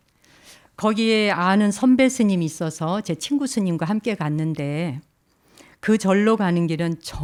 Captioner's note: speaking in Korean